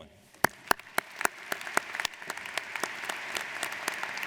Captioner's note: audience applauds